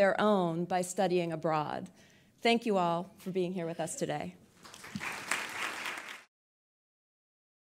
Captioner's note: clapping